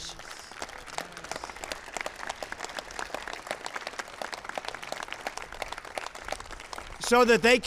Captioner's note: applause